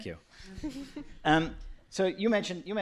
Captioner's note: laughter